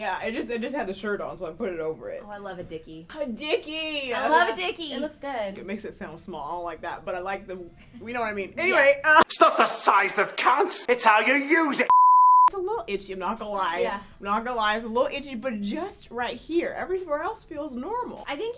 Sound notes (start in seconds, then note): 11.9 beep